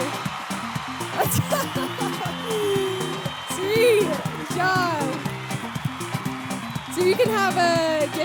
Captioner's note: laughs